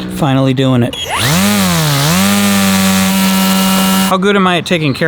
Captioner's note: motor whirs